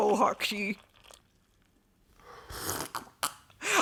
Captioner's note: sound of liquid pouring and loud slurping